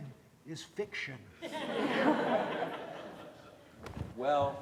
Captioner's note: audience laughs